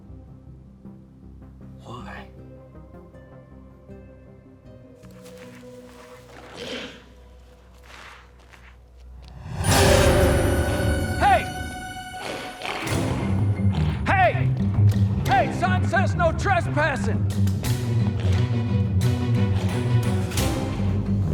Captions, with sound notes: Why? (eerie music) (footsteps shuffling) (intense music) - Hey! Hey! Hey, son. Says no trespassing. (dramatic music)